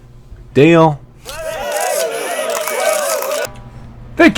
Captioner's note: applause